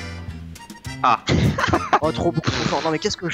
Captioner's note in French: rires